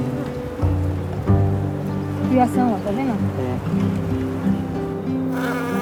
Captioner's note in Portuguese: Voz masculina